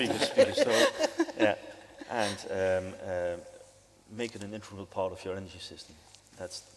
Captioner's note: panel laughs